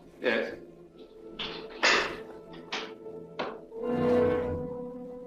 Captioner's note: lock clacks